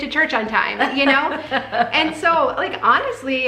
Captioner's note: laughing